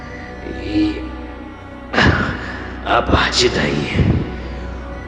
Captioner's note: coughs